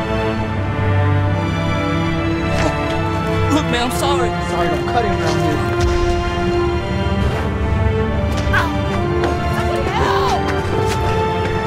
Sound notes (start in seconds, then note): 2.6 thudding; 8.5 man grunts